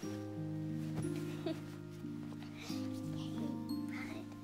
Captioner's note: laughing